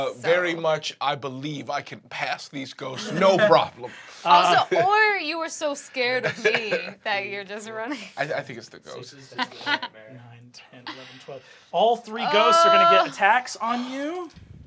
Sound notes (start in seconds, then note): 9.8 speaks softly